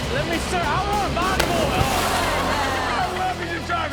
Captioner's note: wave slaps; all laugh